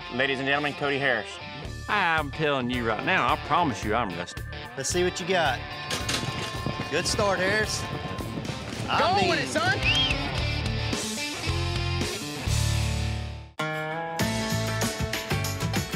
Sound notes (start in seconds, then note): 5.8 gate clangs open; 7.7 fast hoof beats; 9.7 whistles